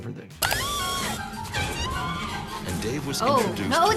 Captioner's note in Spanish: masajista gritando